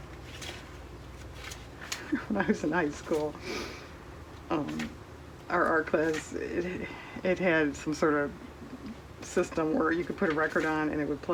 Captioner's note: laughs